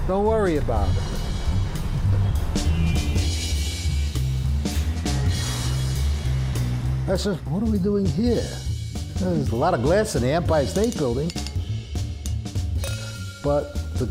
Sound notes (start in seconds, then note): 2.2 car horns blaring; 5.5 upbeat music